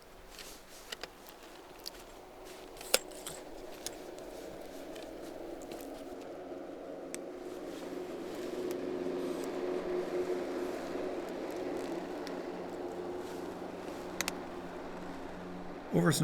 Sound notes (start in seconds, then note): 1.3 sound of a loud snowcoach passing